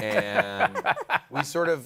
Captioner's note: laughter